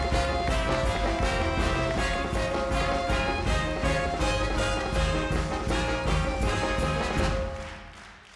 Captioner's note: audience clapping and cheering